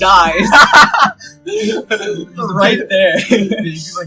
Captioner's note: laughter